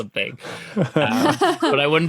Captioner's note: laugh